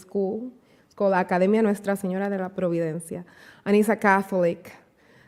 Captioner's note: speaking spanish